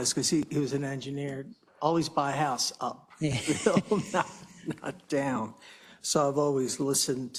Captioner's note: laugh